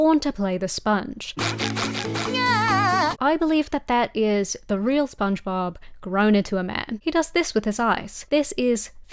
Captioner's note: Spongebob noises